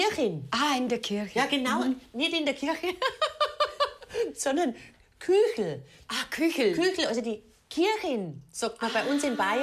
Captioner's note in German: lacht